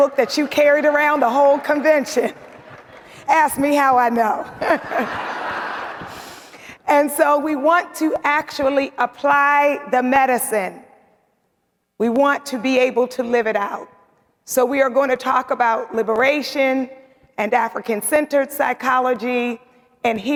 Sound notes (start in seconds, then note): 4.5 laughs; 4.5 audience laughing